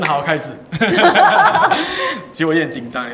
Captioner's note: laughter